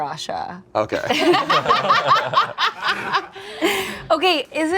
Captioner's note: group laughs